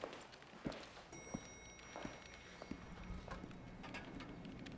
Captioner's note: elevator dings